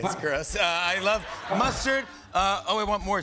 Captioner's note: laughter